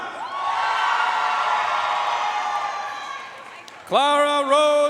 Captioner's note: audience cheering and applauding